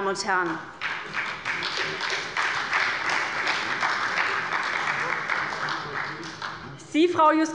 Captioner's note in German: Beifall bei der SPD